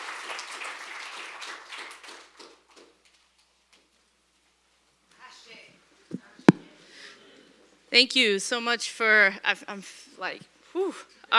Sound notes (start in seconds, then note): 3.6 applause